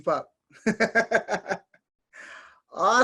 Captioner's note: laughing